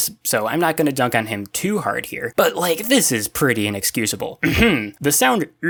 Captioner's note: ahem